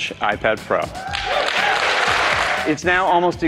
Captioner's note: cheering